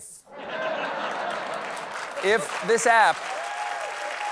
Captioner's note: laughter; applause